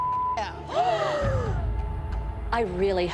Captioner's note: gasping